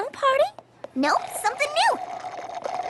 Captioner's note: slurp!